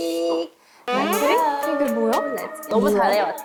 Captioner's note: surprised sound effect